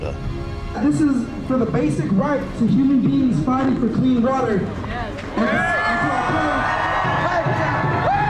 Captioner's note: cheering, applause